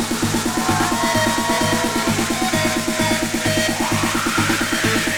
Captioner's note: crowd cheering